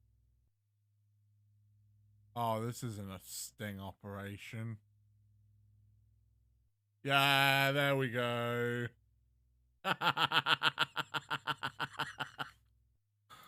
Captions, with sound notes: (Obvious sarcasm) Ahhh! This isn't a sting operation. YEAH! There we go! *laughs*